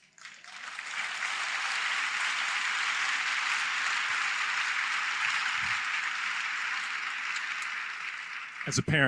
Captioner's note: applause